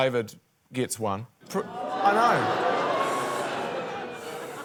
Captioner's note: audience boos